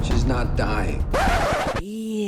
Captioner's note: record scratch